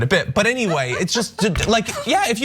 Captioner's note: laugh